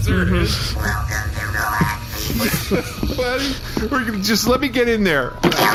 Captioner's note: sobbing